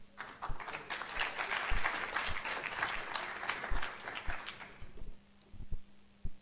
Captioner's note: applause